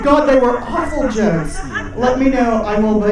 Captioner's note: audience laughing